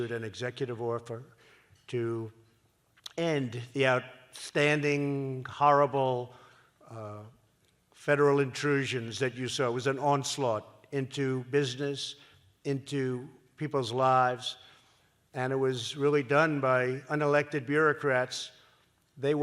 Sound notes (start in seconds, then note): none